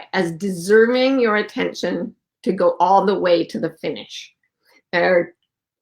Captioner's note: none